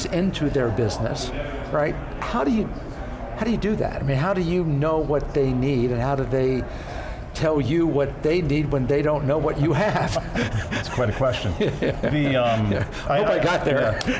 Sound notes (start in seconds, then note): 9.7 laughs